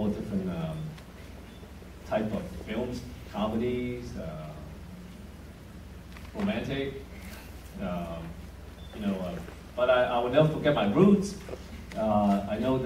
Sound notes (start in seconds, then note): none